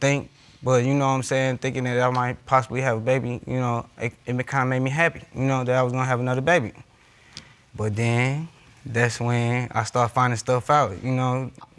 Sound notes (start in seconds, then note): none